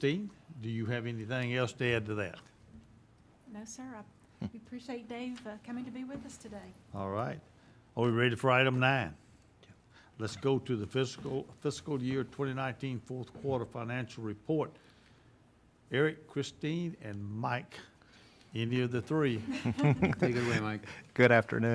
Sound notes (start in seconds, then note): 19.4 chuckling